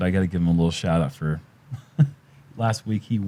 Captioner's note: chuckles